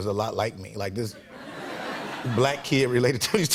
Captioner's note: light laughter